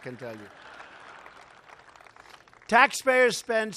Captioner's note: laughter